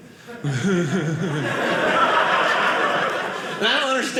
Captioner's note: audience laughing